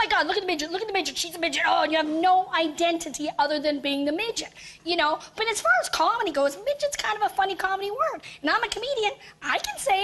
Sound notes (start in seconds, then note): none